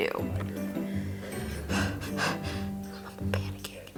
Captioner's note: deep breathing